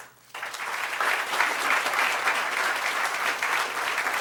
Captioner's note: applause